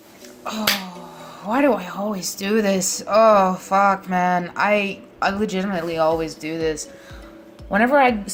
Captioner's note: claps